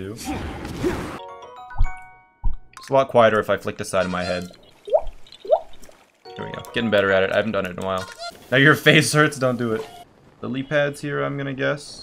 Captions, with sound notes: It's a lot quieter if I flick the side of my head. [more drippening] There we go. Getting better at it. I haven't done it in a while. Now your face hurts? Don't do it. Lillypads here I'm gonna guess?